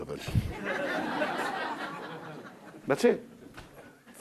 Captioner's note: crowd laughing